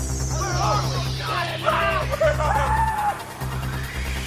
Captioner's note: shouting in unison; ominous music